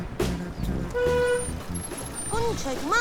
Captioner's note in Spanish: Bocina